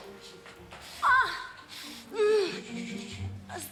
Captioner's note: groans